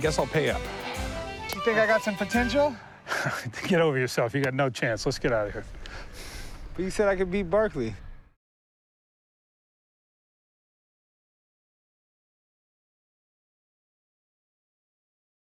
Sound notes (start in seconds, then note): 3.1 laughs